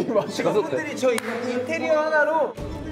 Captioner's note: slap